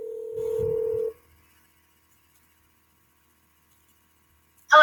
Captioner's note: phone ringing